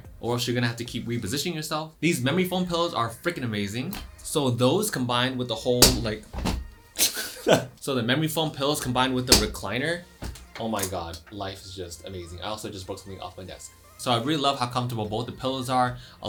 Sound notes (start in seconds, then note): 5.8 thud; 6.9 laughs